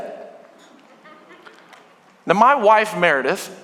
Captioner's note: congregation laughing